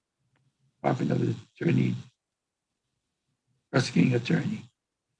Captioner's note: faintly speaking